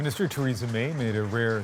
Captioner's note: applause